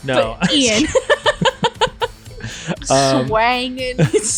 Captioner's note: laughing